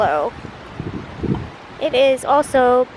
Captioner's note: wind blowing